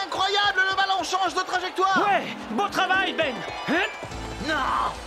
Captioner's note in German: beifall